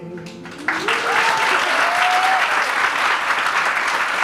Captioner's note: group clapping